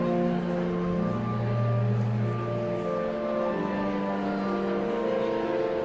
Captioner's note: enigmatic organ music continues; audience chattering continues